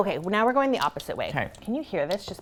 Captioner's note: bath popping